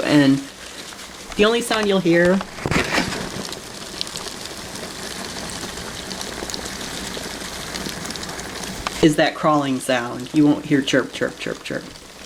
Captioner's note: skittering on cardboard